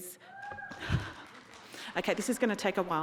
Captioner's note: audience clapping